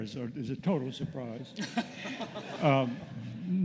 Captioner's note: laughter